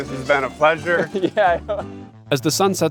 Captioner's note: laughs